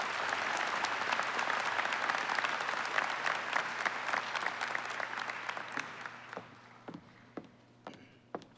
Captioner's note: applause